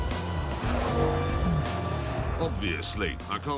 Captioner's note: engine roaring